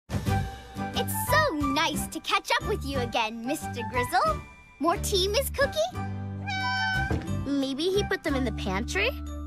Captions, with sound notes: It's so nice to catch up with you again Mr. Grizzle. More tea Ms. Cookie? [meows] Maybe he put them in the pantry?